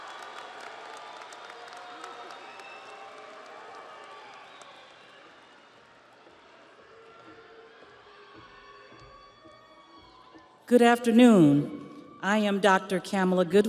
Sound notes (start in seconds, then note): 2.1 audience applauds; 2.1 audience cheers